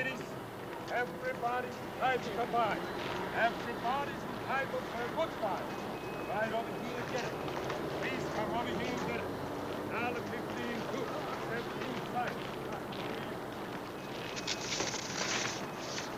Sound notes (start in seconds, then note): 10.9 snow crunching